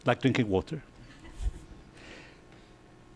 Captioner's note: chuckling